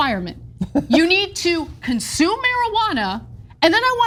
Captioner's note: laugh